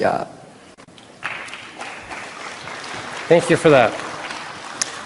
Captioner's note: applause